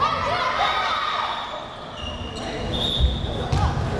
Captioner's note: players shouting